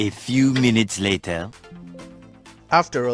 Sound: Windows 11 Background Sound

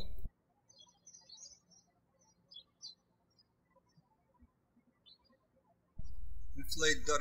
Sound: birds chirping

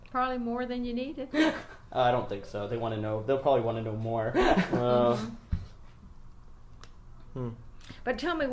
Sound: laughs

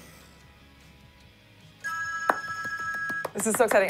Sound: ring

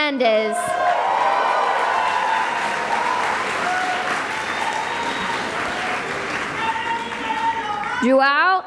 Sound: cheering and applause

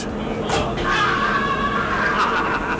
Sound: screaming!

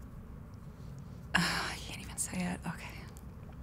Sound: sighs

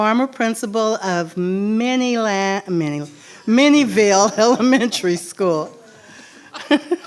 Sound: laughs

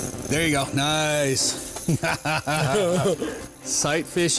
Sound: laughs

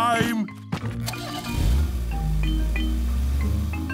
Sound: engine starting

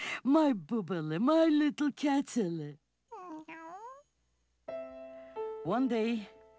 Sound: cat meowing

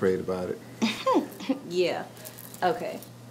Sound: chuckles

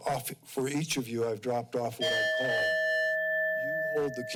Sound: timer dings

